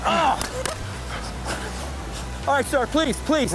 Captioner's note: gun shot